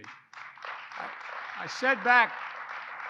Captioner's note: applause